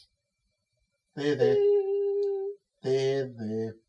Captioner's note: Cataliss whimpers